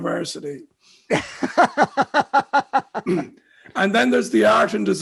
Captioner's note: laughs